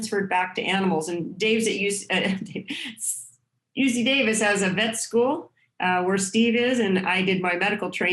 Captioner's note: laughter